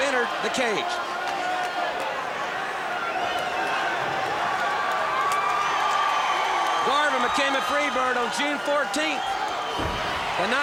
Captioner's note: applause